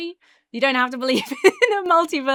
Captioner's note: laughs